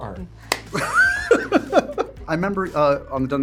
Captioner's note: laugh